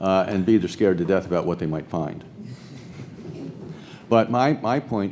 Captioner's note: audience laughs